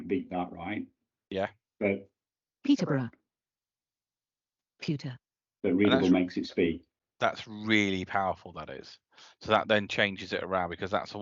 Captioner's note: computer speaks